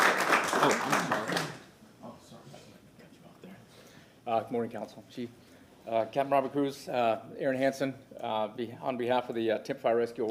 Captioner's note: applause